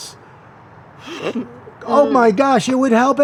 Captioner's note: chuckles